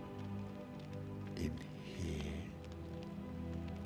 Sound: whisper

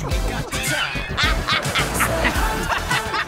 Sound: laughing

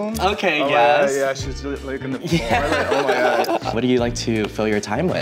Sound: laughs

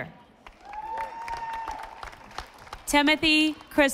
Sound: audience applauding

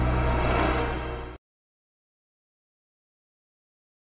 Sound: silence

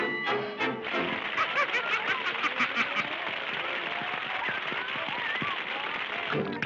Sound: public cheers

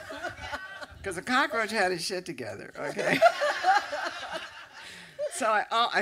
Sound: laughter; laughter

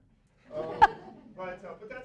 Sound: laughter

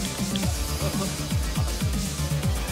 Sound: laughing

